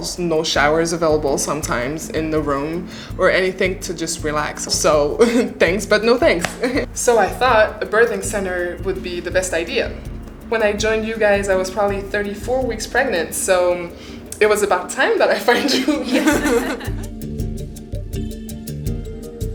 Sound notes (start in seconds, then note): 15.4 laughing